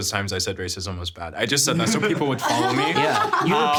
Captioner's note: laughing